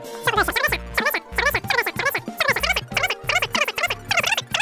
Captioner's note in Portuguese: Tão rápido que as palavras se misturam juntas; Tão rápido que as palavras não são mais perceptíveis